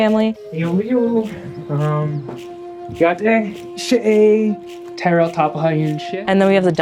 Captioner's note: speaking Navajo